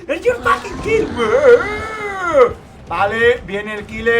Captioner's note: oni impressions in Spanish